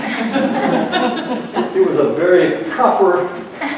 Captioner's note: laughter